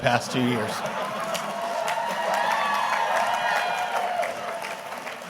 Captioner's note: audience cheering and clapping